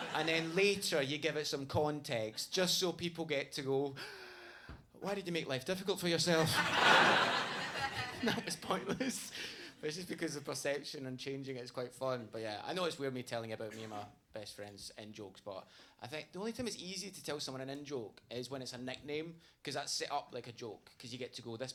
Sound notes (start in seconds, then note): 6.4 audience laughs